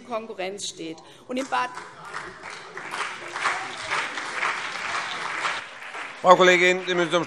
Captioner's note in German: Beifall CDU und BÜNDNIS 90/DIE GRÜNEN